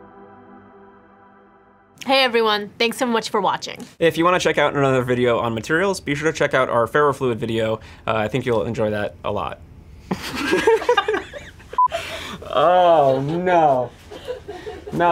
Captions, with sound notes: Hey, everyone. Thanks so much for watching. If you want to check out another video on materials, be sure to check out our ferrofluid video. I think you'll enjoy that a lot. (laughter) (beeping) Oh, no, no!